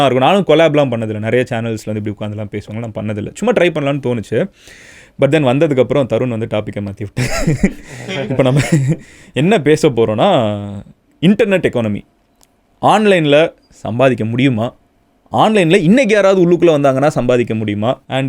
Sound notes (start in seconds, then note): 7.2 laughing